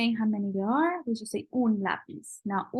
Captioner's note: spanish